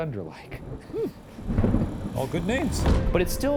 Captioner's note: thunder crashes